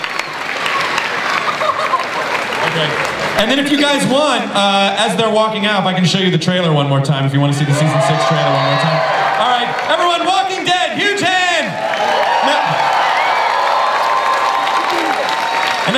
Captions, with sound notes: And then if you guys want, as they're walking out, I can show you the trailer one more time, if you want to see the season six trailer one more time. All right, everyone, Walking Dead! Huge hand! (audience applauds and cheers)